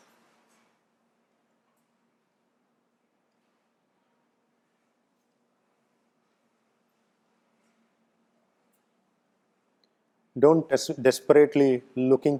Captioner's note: silence